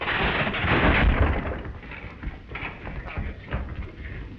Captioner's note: table clattering